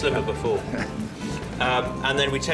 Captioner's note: chuckles